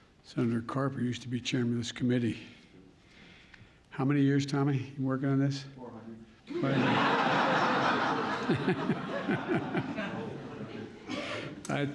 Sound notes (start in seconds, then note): 6.5 laughter; 10.7 laughs